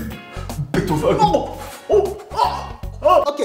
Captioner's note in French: bruit de vomi